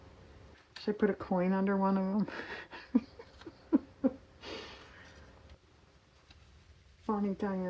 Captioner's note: laughs